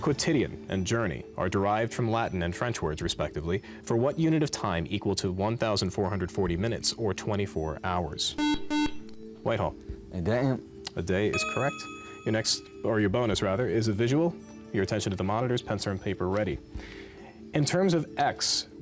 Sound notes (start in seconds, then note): 8.4 beep